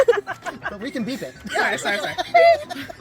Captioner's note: making beeping noises